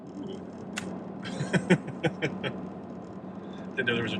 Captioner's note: laughs